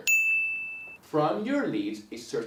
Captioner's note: bell rings